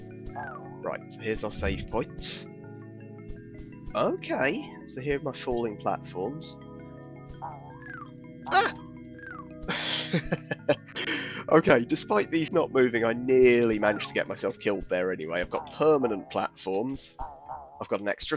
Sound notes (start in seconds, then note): 9.6 chuckles